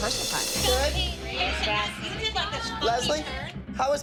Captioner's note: indistinct chattering